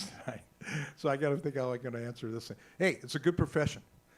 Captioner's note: laughs